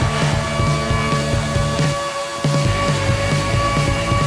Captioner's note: sander buzzing